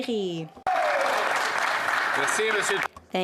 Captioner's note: speaking French